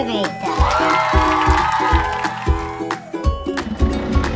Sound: crowd cheering and applauding

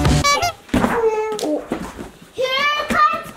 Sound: horn honks

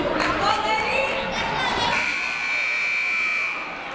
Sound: people cheering in the crowd; buzzer ringing

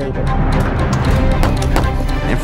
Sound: flash bangs

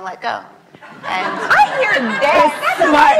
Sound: laughs

